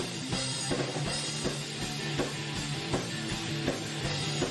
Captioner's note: none